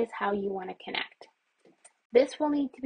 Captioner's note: mouse clicks in silence